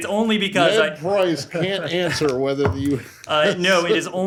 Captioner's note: laughter